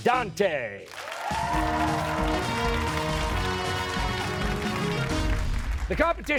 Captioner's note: cheers and applause